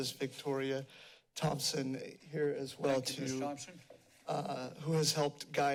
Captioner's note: none